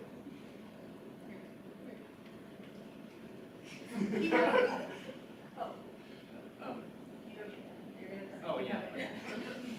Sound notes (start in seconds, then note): 3.9 audience laughs